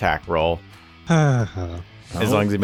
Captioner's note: sigh